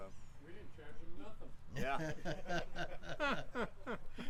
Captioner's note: laughs